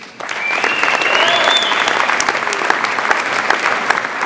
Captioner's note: audience applauds